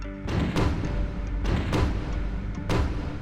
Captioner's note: gun shots